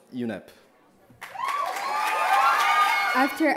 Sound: cheering

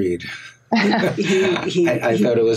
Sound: everyone laughs

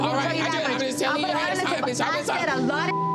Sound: beep; both chattering; beep

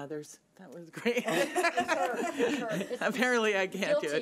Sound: laughs

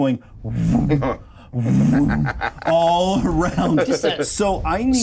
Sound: imitates whooshing sound

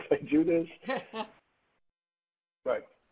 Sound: laughing

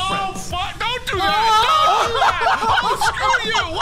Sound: people laughing

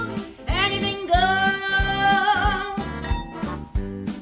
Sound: wine glass clink

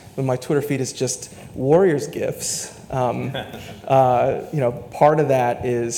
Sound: laughs

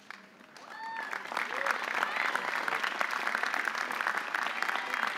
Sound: audience applauding

